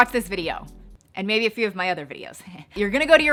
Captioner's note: chuckles